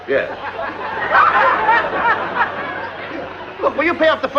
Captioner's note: laughter